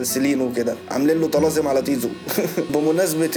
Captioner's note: chuckles